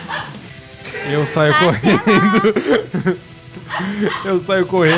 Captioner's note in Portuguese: Risadas